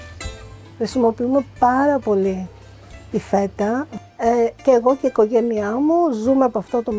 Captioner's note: speaking in foreign language